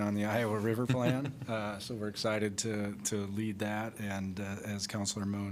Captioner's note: laughter